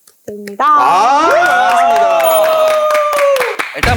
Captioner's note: cheers